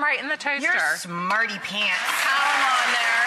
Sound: applauds

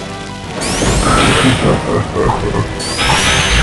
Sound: laughing

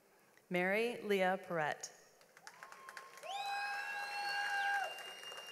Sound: audience applauds

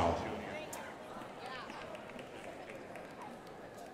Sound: crowd applauding

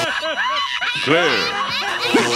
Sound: laughter

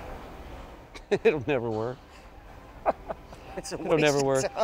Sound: chuckling

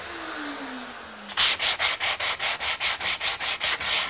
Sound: grinding noises

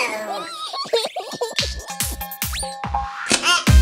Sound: giggles

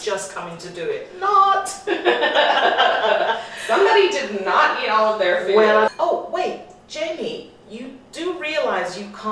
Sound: both laugh

